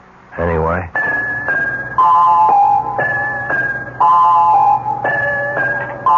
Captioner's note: phone rings